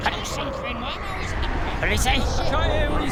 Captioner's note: wind howls